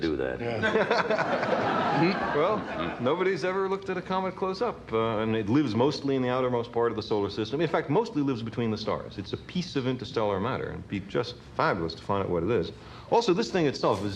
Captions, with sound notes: - I've always wanted to do that. (all laughing) - Well, nobody's ever looked at a comet close up. And it lives mostly in the outermost part of the solar system. In fact, mostly lives between the stars. It's a piece of interstellar matter, and it'd be just fabulous to find out what it is.